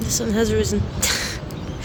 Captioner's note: dry chuckle